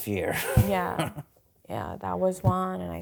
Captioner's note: chuckling